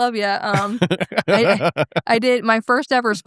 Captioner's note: both laughing